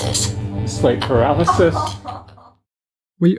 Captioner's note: laughter